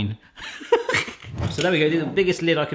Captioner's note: laughs